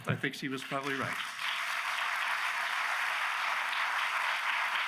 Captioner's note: audience applauds